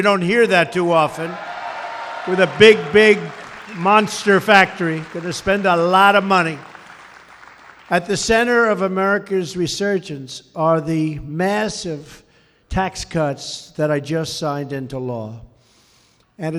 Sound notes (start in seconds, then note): 7.1 applause